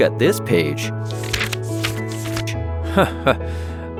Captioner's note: pages turning; chuckling